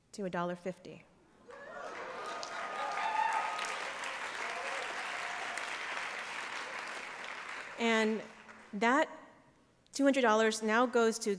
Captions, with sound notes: to $1.50. [APPLAUSE] And that $200 now goes to